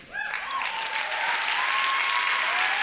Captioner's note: applause